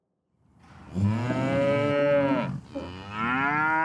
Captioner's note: cows mooing